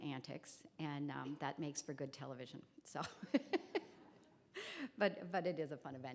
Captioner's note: laughs